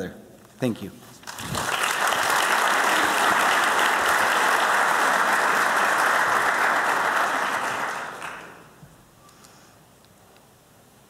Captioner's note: applause